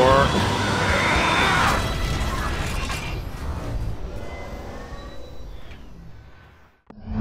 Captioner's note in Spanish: Sonidos mecánicos